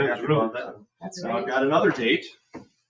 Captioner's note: people chattering